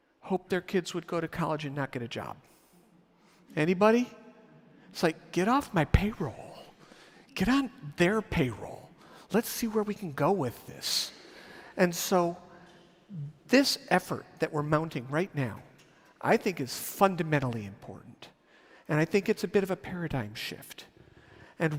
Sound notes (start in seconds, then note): none